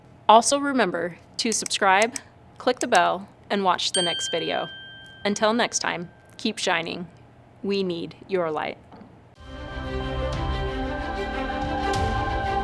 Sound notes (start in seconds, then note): 3.9 bell dings; 9.5 uplifting music